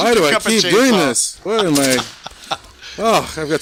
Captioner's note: laughing